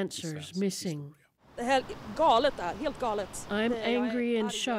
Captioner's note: speaking alternate language